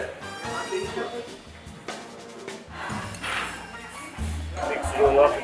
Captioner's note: cafe noises